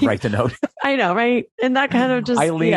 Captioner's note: laughs